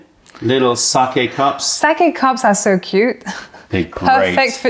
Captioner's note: laughter